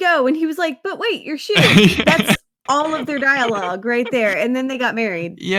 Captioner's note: laughs